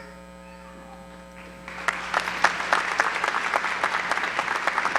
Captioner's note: applause